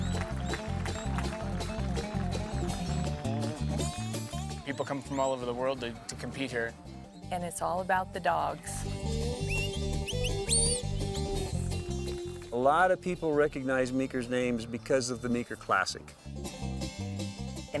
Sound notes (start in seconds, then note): 0.1 upbeat acoustic music; 9.4 whistling